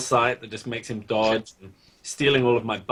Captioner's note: laughs